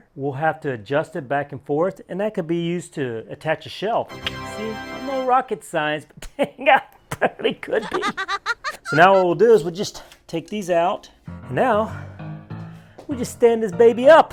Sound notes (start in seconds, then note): 4.0 triumphant tune; 7.8 girl laughing